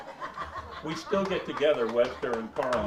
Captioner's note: woman laughing